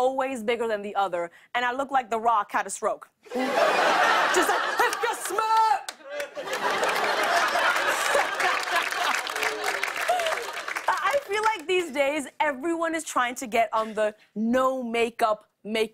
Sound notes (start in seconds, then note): 6.0 laughter; 7.6 laughs